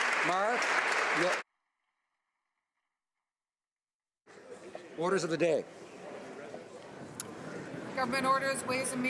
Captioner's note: applause